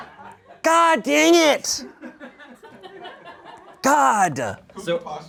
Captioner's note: audience laughing; audience laughing